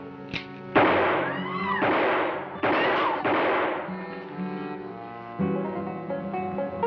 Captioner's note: people screaming; gunshots banging